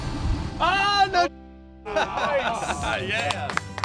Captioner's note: man shouts; men clapping